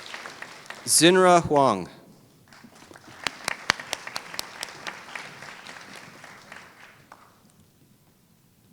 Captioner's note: applause